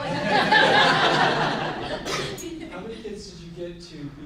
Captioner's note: group laughs